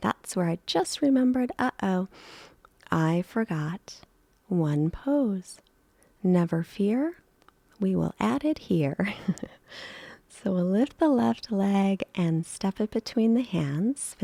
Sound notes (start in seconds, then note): 9.0 chuckles